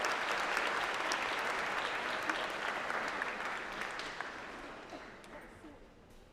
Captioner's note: applause